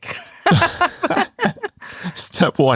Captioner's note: both laughing